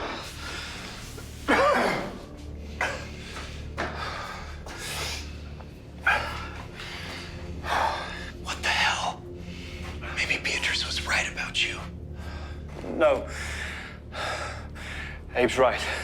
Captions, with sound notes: (Cody coughing) (quiet tense music) - What the hell? Maybe Beatrice was right about you. - No, Abe's right.